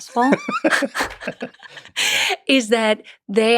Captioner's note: both laughing